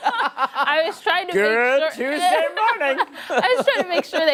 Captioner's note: laughter